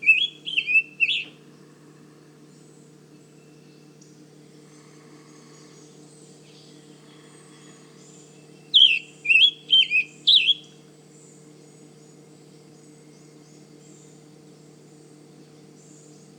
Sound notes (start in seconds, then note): 0.0 Scarlet tanager singing; 3.3 short pause; 12.9 short pause